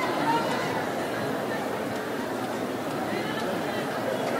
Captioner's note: background chatter